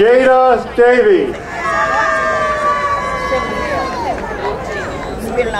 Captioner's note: crowd cheering